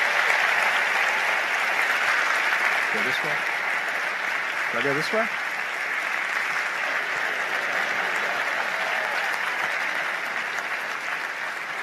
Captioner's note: applause